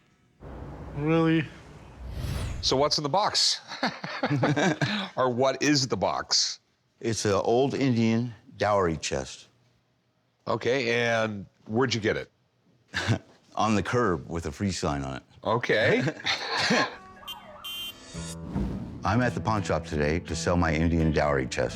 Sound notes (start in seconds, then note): 3.7 both laugh; 12.3 chuckles; 15.8 both laugh; 17.0 car honks